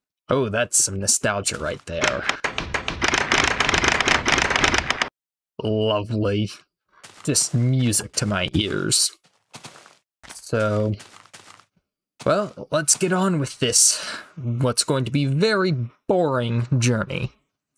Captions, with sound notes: Oh that's some nostalgia right there! [closes and opens door rapidly] Lovely! Just music to my ears! So... Well, let's get on with this, what's going to be a very boring, journey.